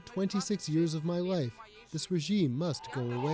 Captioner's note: speaking Foreign Language